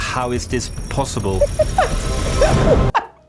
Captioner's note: chortling; chortling continues